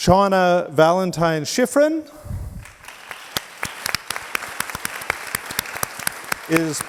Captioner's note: audience applauds